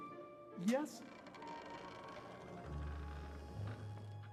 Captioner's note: door creaking